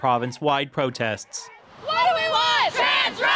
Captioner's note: chanting